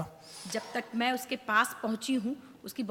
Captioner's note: speaks foreign language